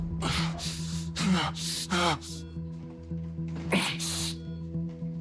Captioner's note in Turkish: Gerilim müziği; Yaşam destek cihazı çalışıyor